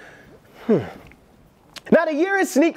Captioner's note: sighing